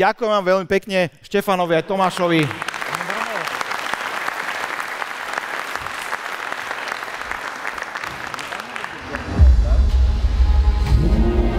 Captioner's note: applause